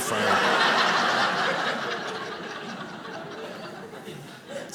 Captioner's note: audience laughing